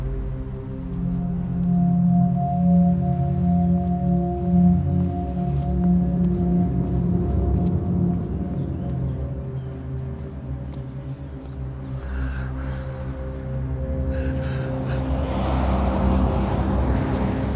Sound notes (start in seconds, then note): none